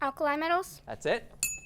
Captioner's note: ding sound